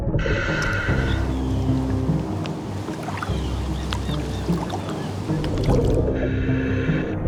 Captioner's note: birds chirping; suspenseful music continues; mouthpiece hissing; suspenseful music continues